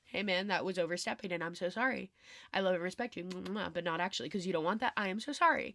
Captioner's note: mwah mwah